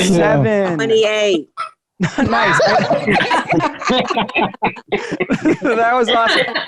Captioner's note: all chuckling